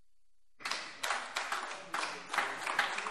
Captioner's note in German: Beifall AfD - Zurufe